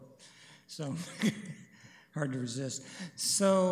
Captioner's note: chuckles